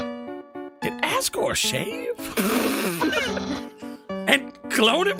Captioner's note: laugh